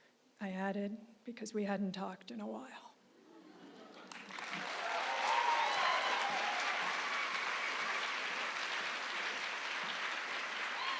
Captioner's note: applause